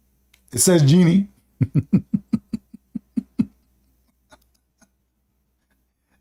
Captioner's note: Ketawa